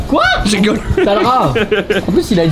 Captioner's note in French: rire